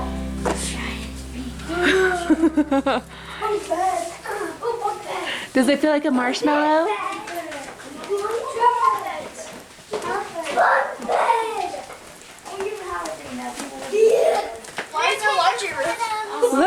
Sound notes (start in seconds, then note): 1.3 murmuring; 8.5 children talking